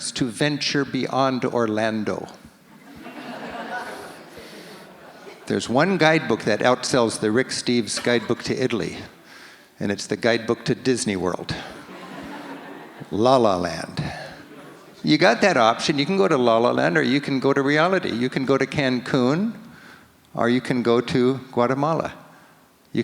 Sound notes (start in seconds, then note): 2.7 audience laughs; 11.7 audience laughs